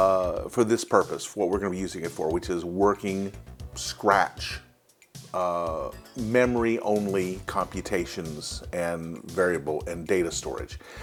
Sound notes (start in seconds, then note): none